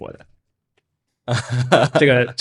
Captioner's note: laughs